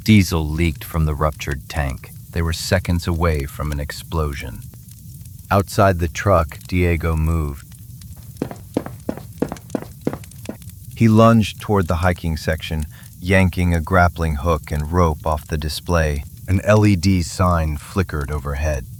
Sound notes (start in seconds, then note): 10.8 SFX: running